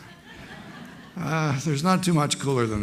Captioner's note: laughter